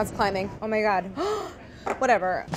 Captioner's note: gasping